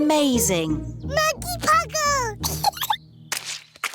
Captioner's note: giggles